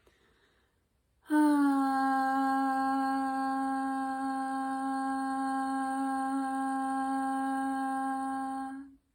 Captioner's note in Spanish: suspiro y tono